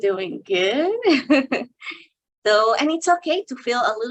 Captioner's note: chuckles